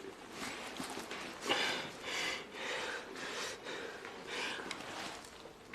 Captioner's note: pants heavily; crunches, swallows pills